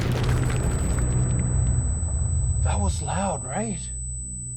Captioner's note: explosion blasts; feedback whistles